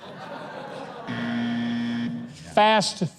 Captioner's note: buzzer sound